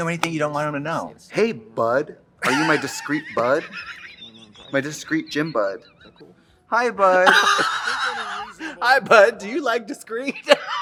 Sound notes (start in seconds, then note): 2.4 Katya laughing; 7.1 laughs